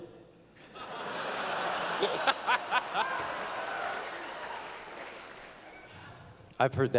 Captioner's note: laughter